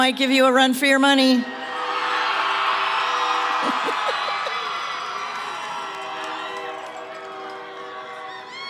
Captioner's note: cheering